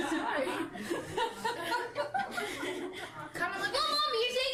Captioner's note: laughter